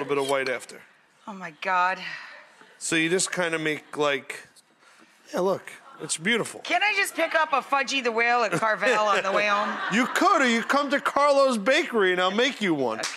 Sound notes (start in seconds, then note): 2.1 audience laughs; 8.5 Buddy and audience laugh; 12.9 audience applauds